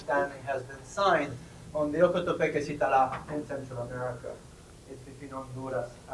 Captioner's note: spanish